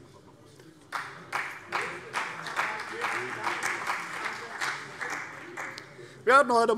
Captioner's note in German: Beifall